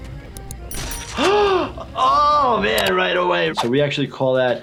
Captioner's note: gasps